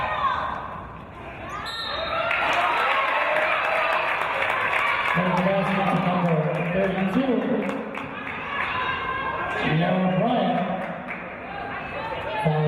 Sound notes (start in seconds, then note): 1.6 referee's whistle; 2.2 applause